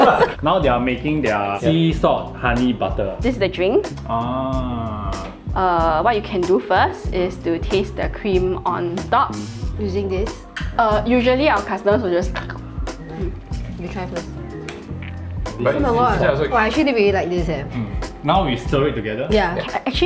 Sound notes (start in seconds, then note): 12.2 mock biting noise